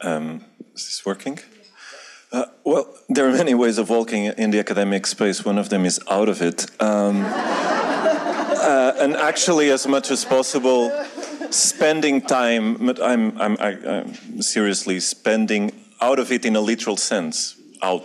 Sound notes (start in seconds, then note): 6.9 audience laughing